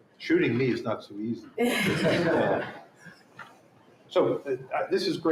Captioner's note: laughter